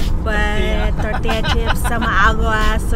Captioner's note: laughs